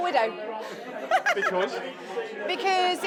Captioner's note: laughter